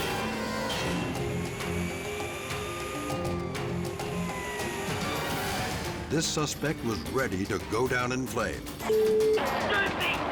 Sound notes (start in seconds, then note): 1.2 siren blares; 8.8 beep